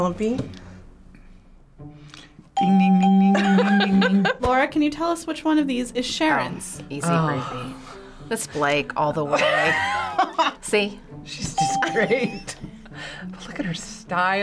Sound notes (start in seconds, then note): 9.3 laughing